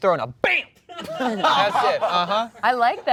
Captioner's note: laughter